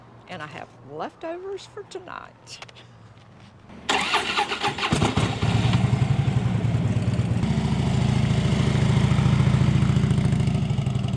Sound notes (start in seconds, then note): 3.8 motorcycle starts; 6.1 engine purrs to life